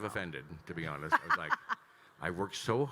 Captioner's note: laughing